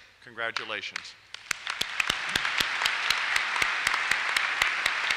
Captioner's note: applause